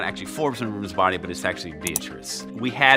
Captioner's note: pointer clicking